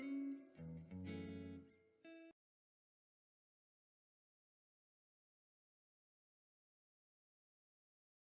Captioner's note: no audio